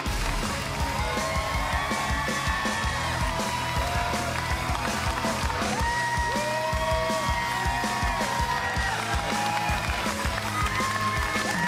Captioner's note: cheers and applause